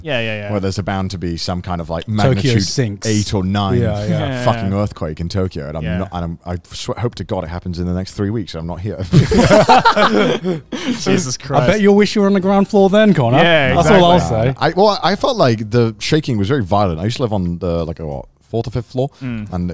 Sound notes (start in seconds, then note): 9.1 laughs